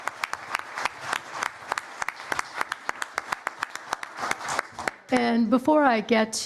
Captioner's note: applause